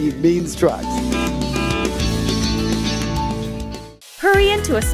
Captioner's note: horn honking